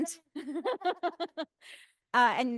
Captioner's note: laughing